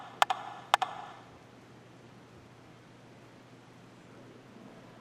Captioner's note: rhythmic tapping